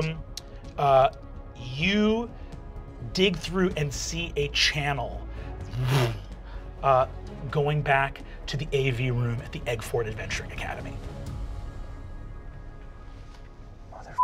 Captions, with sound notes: You dig through and see a channel (mimics vibrating) going back to the AV room at the Aguefort Adventuring Academy. (ominous music)